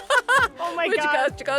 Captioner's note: laughter